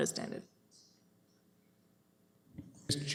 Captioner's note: audio drop